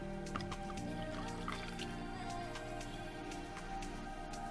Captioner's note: liquid pours